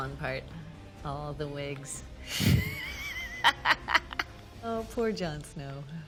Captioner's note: laughing